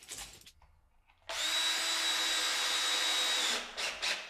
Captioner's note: drill hums